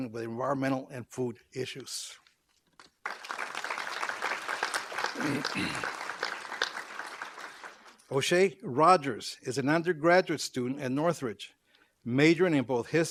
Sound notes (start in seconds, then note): 2.7 applause